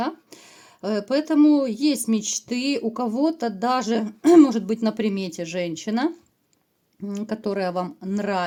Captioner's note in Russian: откашливается